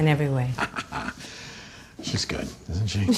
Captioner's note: Chuck chuckling